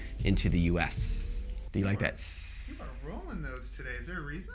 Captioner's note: hissing voice